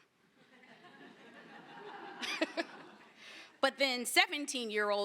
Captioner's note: laughter